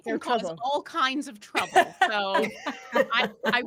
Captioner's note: laughing